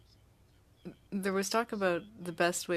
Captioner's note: speaking French